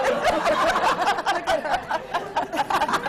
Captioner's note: laughter